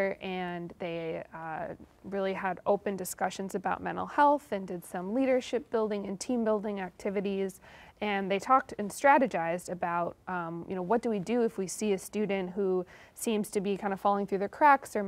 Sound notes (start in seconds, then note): none